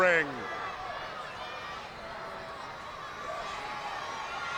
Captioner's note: crowd yelling